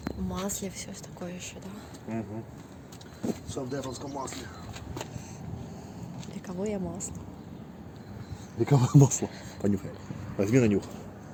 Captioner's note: laughs